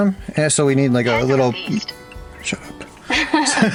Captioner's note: phone talking